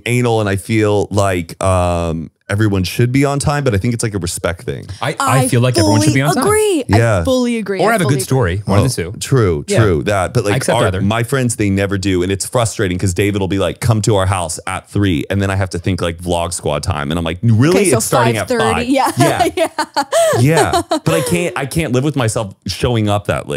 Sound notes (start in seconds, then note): 19.8 laughs